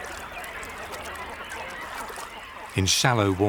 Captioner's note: birds calling